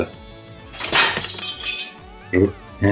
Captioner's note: crashing noise